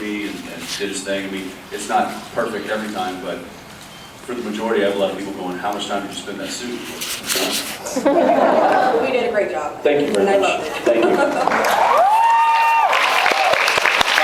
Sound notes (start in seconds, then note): 7.8 laughs; 11.4 cheers, applauds